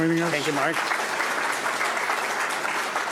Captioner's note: audience clapping